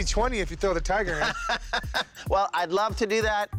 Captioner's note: laughs